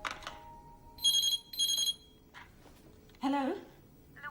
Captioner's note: door slams in cradle; phone ringing